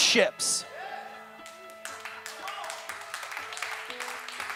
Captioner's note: applause, celebration